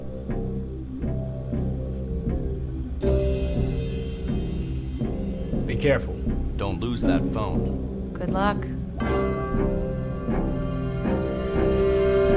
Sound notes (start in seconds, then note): 1.7 machines humming